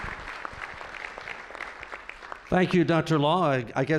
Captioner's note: applause